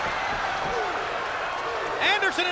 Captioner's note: spectators cheering